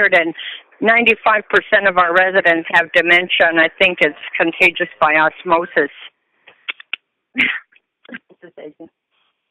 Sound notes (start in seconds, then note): 7.3 chuckle